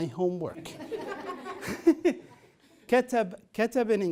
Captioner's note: laughter